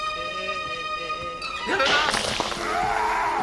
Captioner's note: yelling